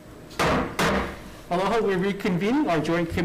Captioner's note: gavel bangs